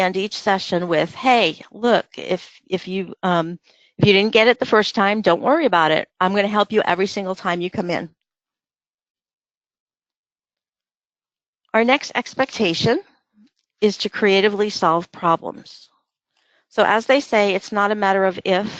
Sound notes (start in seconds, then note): 8.3 silence